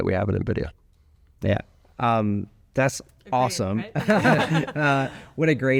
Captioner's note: laugh